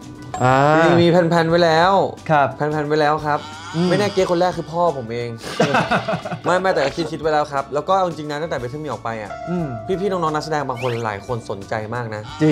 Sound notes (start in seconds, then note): 5.4 laugh